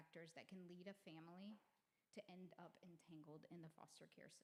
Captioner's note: none